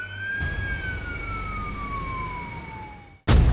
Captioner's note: siren wailing